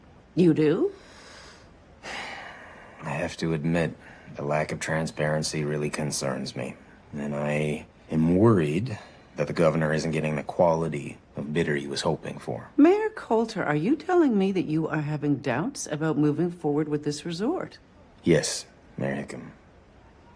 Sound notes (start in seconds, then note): 2.0 sighs